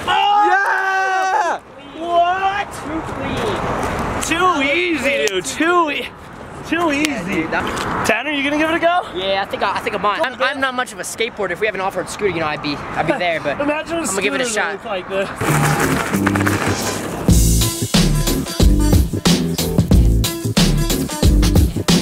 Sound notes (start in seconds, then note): 0.0 cheering; 15.3 tires grinding; 17.2 downtempo electronic music